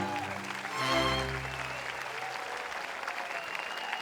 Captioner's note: audience applauds/cheers